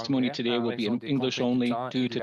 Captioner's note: speaking French